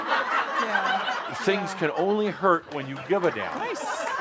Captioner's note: laughter